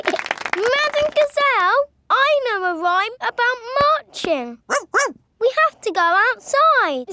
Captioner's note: laughing and clapping; barks